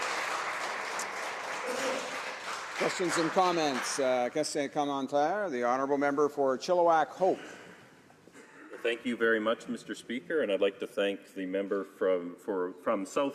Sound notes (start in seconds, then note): 0.0 some Applause